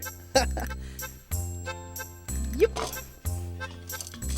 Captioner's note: giggling